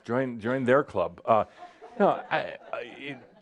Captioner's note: some chuckles